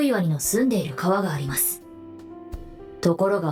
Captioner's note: none